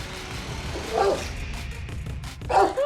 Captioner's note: music climbs; dogs bark